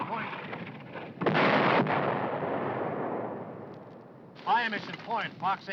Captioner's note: bomb exploding